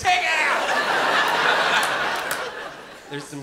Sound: laughter

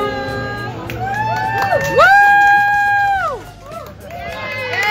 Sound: all cheering

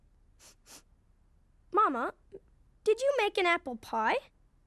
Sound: sniffing

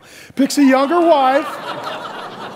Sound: audience laughs

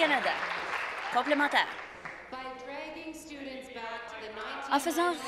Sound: applause

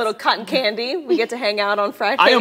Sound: laughter

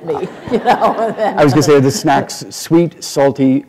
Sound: laughter

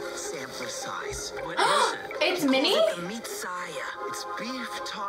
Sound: gasps

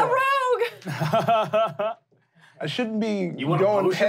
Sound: laughing

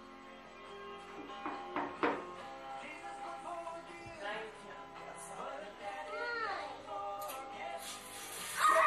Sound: television in background

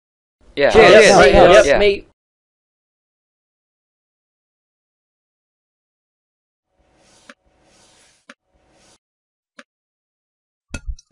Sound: A ton of voices

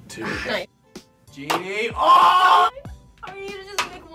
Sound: groaning

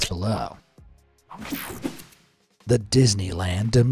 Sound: techno sound effect

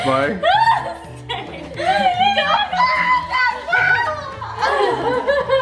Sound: girls exclaiming and laughing

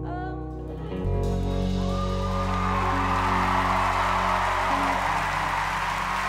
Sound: crowd applauding and cheering

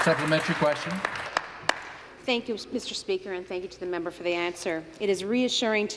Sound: some Applause

